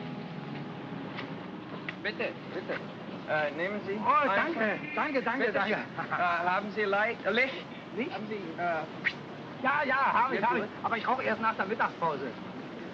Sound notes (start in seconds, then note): 0.0 melancholy music; 1.8 speaking in German